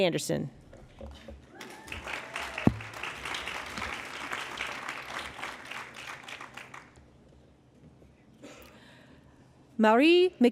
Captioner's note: applause